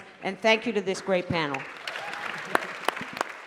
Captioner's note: applause